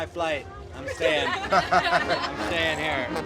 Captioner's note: laughter